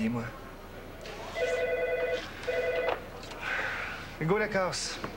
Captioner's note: Le téléphone sonne